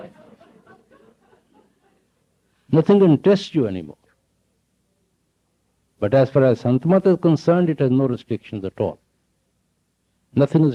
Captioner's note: laughter